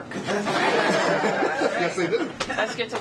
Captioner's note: laughter